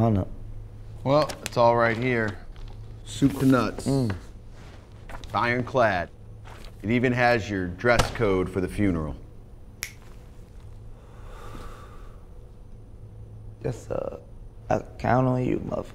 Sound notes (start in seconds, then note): 9.8 fingers snapping; 11.0 Billy exhaling